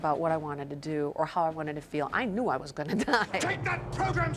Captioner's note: laughs